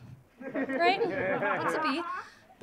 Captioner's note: audience laughing